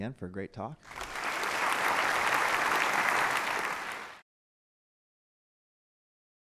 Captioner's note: applause